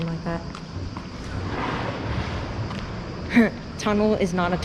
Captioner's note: splashing in background